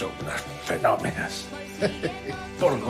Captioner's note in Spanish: Risas